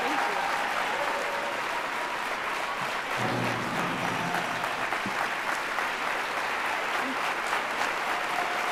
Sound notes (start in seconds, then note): 3.2 applause